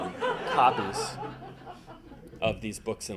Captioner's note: audience laughing